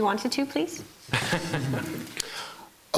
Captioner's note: laughing